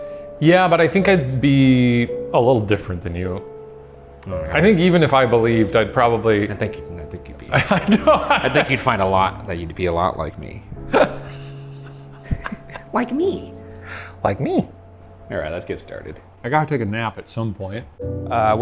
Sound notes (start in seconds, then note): 7.5 laughs; 10.8 laughing